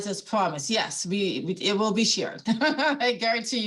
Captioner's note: laughing